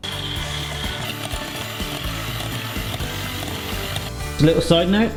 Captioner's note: whisking; upbeat pop music